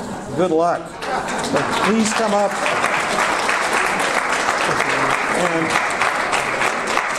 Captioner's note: audience applause